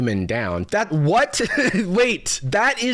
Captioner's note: laughs